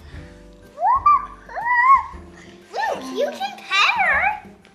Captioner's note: baby shouting